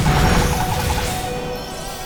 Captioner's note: low HP sound